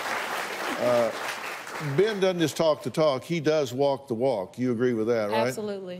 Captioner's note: applause